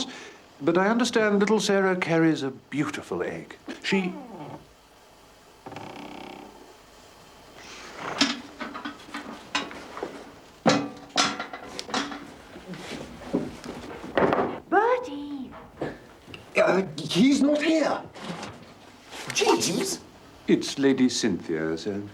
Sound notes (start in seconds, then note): 5.6 creaking